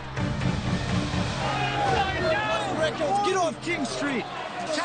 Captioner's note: crowd yelling